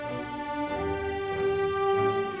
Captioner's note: none